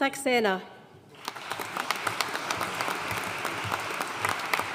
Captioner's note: audience applauding